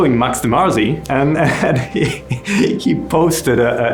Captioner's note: laughing